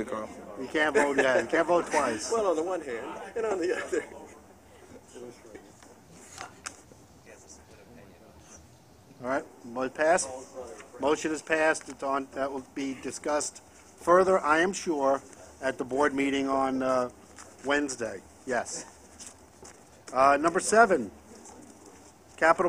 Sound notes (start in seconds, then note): 0.8 laughter